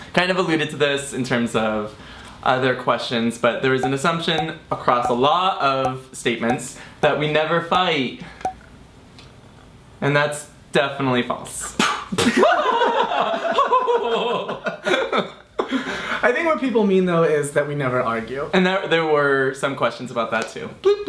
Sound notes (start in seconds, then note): 12.6 laughs